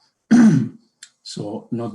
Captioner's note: coughs